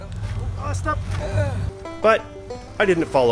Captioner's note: grunts